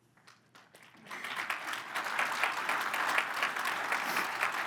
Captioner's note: crowd applauds